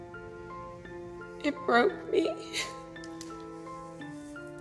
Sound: sobs

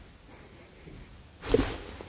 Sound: thud

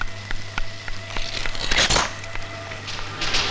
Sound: door creaks

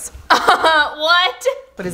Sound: laughs

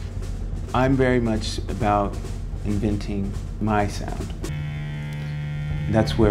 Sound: voiceover

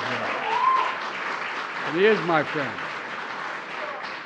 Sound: applause

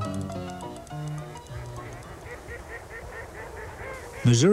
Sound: ducks calling

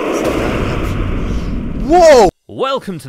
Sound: sfx: WOOSH, explosion

